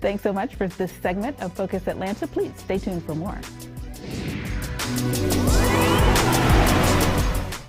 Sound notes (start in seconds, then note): 3.9 air swooshing; 5.4 upbeat music